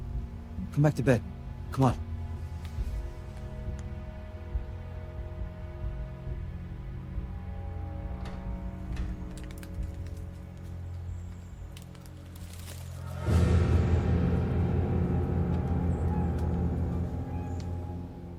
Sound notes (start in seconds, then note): 8.8 branches rattle; 11.9 ominous music